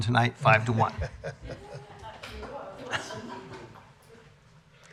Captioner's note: laughter